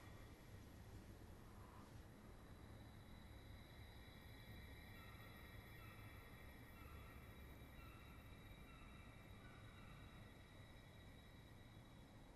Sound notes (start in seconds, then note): none